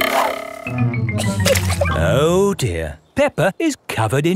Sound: chuckles

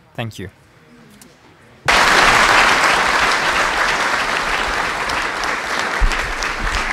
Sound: applause

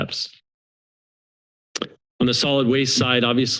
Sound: silence; clicks tongue

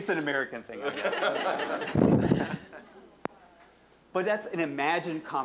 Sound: audience laughing

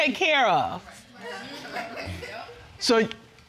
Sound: audience murmuring

